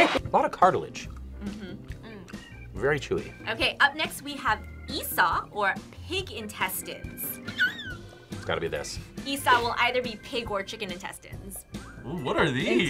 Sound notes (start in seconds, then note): 7.4 squeaks